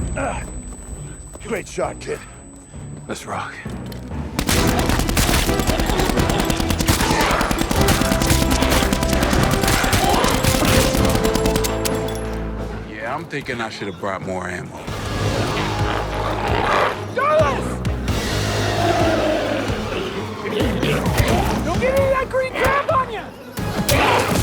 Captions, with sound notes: - Ah, you great shot kid. - Let's rock. (triumphant music) (gunshots popping) Yeah, I'm thinking I should have brought more ammo. - Darlus! (intense music) (glowzies growling) Don't get any of that green gunk on you!